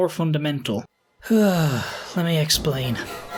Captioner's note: sigh